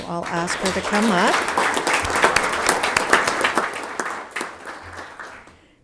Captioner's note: audience applauding